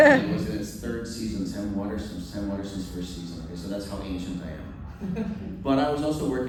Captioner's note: laughter; laughter